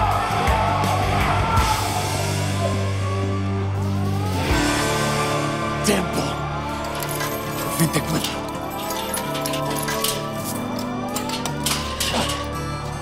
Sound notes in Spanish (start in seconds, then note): 0.0 Griterío; 6.7 Sonido al abrir la reja; 9.6 Sonido al abrir la puerta